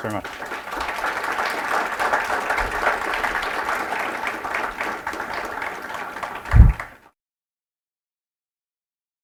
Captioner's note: applause